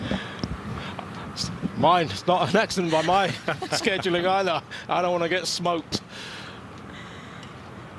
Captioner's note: laughter